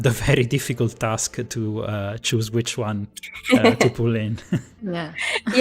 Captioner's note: laughs